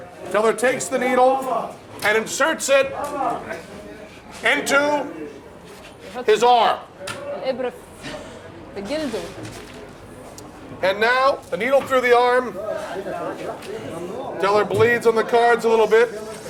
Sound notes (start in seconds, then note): 7.5 non-english speech